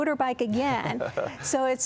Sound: laughter

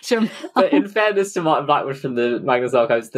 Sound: laughing

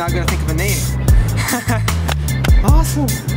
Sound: chuckles

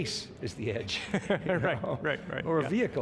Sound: laughing

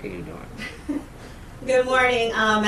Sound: chuckles

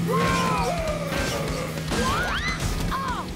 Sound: revving

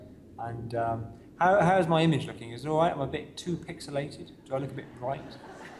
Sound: laughter

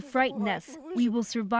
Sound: speaking alternate language

